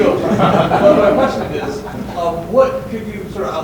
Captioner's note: students laughing